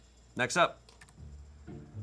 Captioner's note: key clacks; soft music